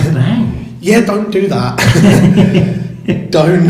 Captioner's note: laughs